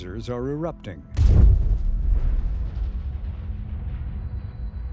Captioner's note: geyser erupting